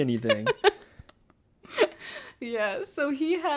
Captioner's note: laughs